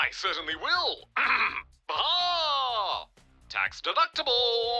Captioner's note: clears throat